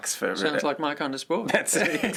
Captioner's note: laughter